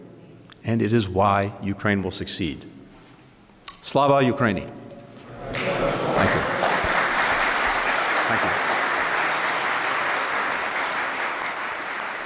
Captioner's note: applause